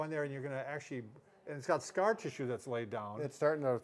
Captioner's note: none